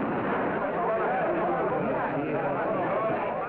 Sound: people chattering; gun firing

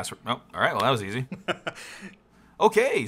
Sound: laughs

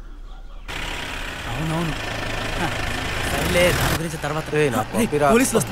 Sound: murmurring

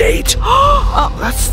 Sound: gasps

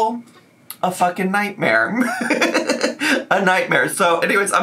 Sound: laughs

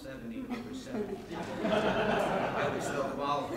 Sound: laughing

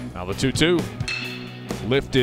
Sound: crack of the bat

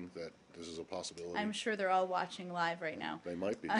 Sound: laughter

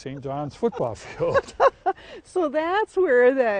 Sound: laughs

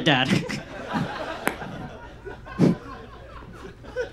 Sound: audience laughs

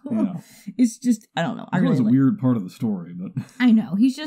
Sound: chuckles; chuckles

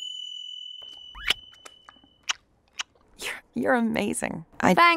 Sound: ding; kissing Sounds

